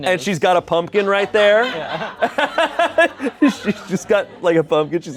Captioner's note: laughs